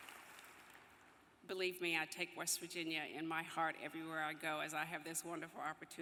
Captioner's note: applause